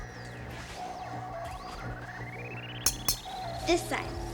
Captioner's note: clinking